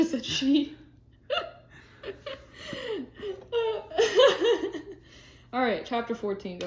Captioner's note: laughing